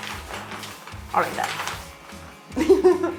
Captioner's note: laughing